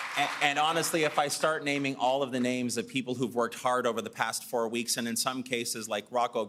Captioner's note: applause